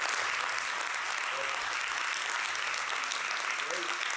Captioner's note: applause